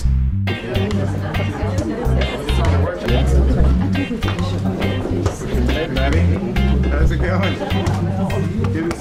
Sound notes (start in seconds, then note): 2.6 background conversations